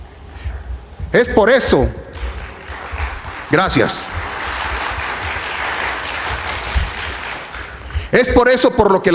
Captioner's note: applause